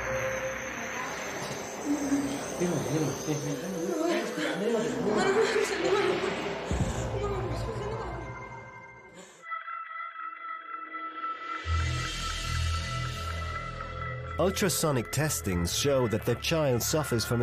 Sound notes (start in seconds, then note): 0.0 brooding music; 0.7 speaking frantically; 10.9 ominous music